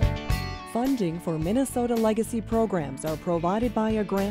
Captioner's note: voiceover